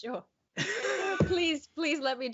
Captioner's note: laughs out loud